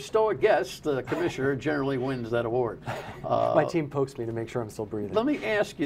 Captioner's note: laughter